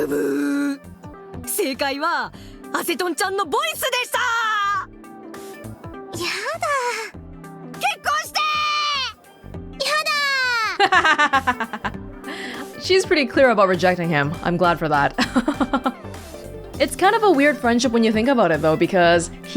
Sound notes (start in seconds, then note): 10.6 laughs; 15.2 chuckles